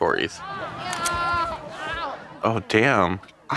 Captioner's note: party guests shout